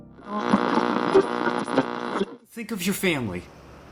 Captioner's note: radio static